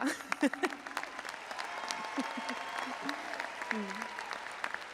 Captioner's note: audience applauding and cheering